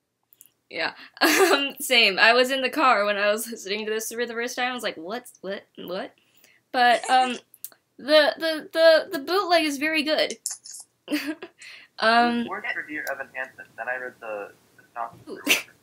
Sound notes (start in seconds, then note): 1.3 laughs